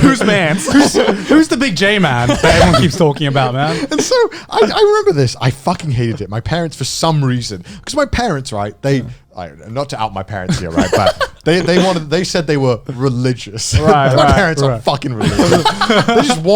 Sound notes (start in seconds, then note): 3.9 laughing; 10.6 chuckling; 15.2 chuckling